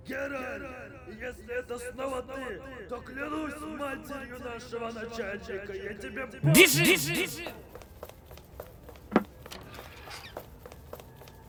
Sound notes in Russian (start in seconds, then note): 0.1 Мужской голос издалека